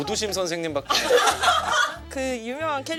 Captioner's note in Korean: 박장대소